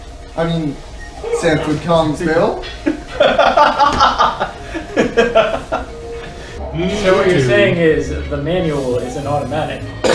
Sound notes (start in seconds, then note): 2.6 laughs